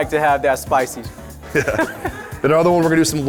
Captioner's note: laughter